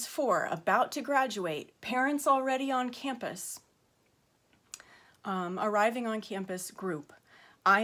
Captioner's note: stammering